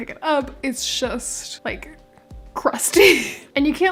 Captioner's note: laughing